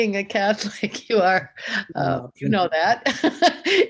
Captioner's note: laughs